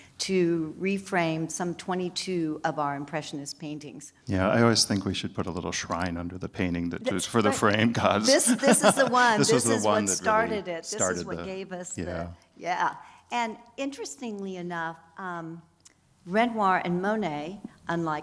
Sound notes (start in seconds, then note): 8.3 laughs